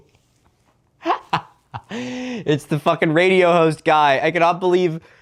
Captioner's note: laughing